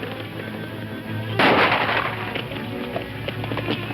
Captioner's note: loud gunshot; hooves thumping